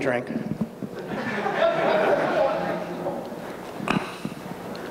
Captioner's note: audience laughs